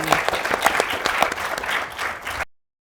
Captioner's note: audience applause